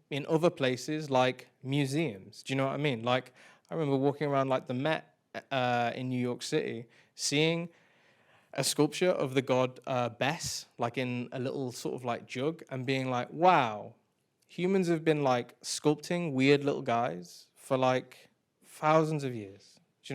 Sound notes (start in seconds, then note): none